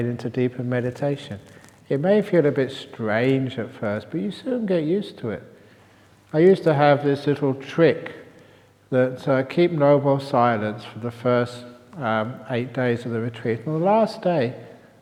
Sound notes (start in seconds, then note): none